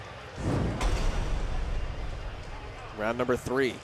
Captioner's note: whoosh sound effect